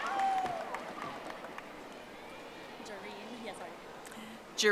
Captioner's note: audience applauding